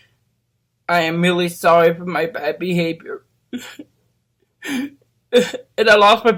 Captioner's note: llora